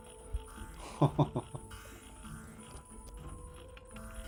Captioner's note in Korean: 웃음